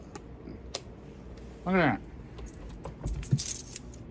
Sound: normal voice

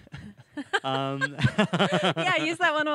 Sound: laugh

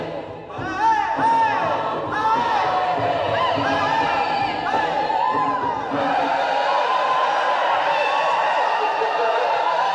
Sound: shouting and whooping

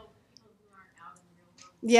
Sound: voiceover

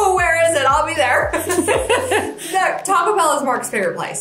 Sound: all laughing

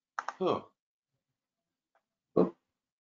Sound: sighing

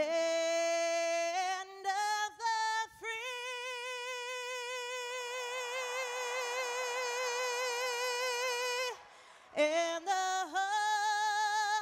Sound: cheers and applause

